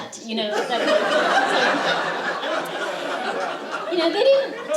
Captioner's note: laughter